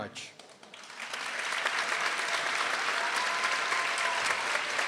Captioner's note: people applauding